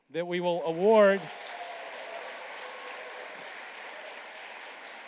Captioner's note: applause